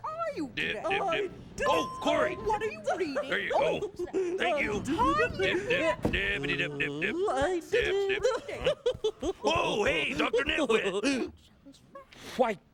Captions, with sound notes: DIP, DIP, DIP... OH, COREY! HERE YOU GO. THANK YOU. DIP, DIP DIPPITY, DIP, DIP, DIP. DIP, DIP... ( chuckling ) OH, HEY, DR. NITWIT! WHITE!